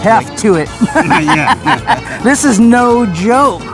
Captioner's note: both laughing